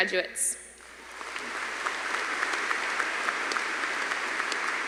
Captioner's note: audience applauding